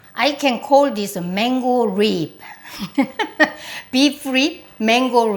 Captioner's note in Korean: 웃음소리